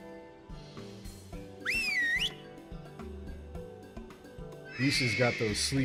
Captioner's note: whistling